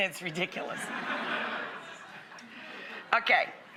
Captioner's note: audience laughs